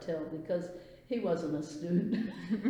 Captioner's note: laughs